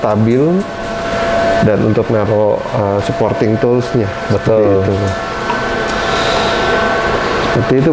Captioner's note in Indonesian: suara touch screen